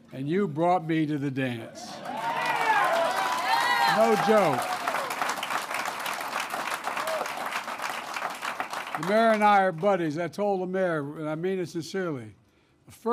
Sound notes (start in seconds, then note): 2.5 applause